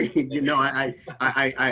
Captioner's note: laughing